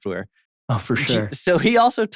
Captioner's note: laughs